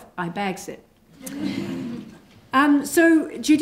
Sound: laughter

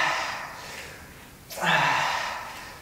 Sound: breath out

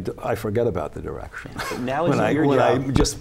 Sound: laughter

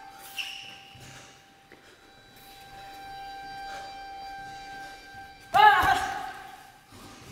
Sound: heavy breathing

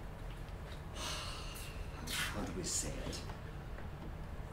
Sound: sighs

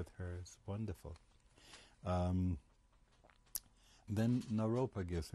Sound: pauses for 3 seconds

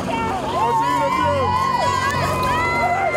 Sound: cheering

